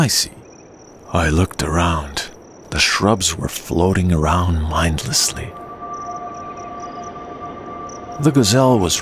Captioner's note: magic sound of floating shrubs